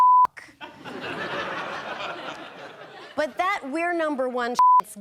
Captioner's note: audience laughing